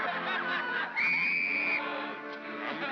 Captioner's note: whistle blows